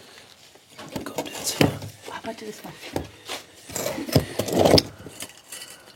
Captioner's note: quietly